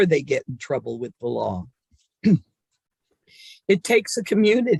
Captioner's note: clears throat